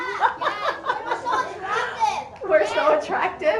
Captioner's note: laughter